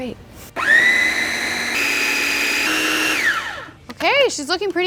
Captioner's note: food processor grinding